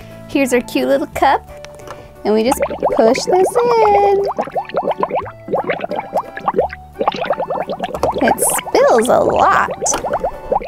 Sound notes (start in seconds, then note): 4.4 gurgling